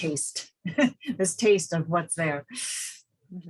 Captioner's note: laughs